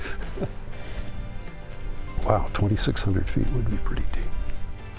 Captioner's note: laughs